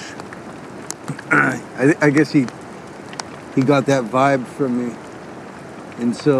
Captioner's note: throat clears